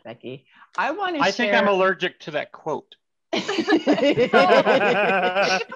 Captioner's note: all laugh